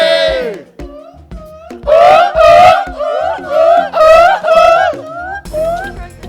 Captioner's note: whooping in call and response